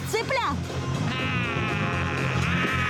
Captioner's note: screeching